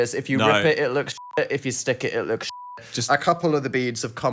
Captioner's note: beep